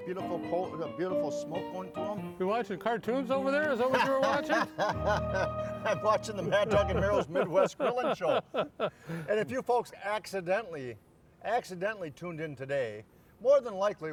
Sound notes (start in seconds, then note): 5.1 laughing; 9.3 laughing